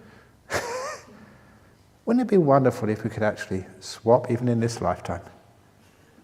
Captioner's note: chuckle